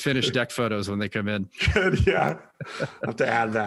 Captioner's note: laughing; laughs